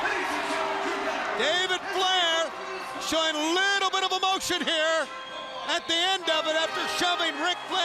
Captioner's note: crowd cheering